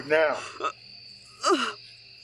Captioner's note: Connie gasping for air